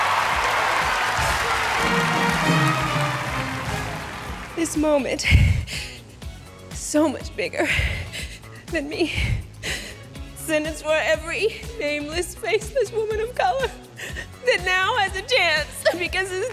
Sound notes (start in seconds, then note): 0.0 cheering; 5.2 weeping